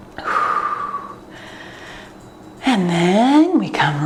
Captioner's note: exhaling